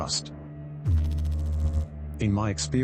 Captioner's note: electrical noise